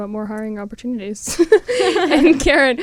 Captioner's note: laughter